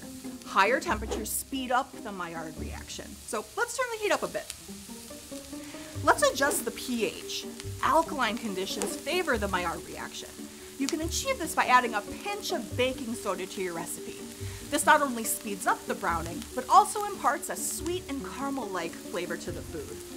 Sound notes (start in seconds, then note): 4.9 sizzling; 5.8 upbeat music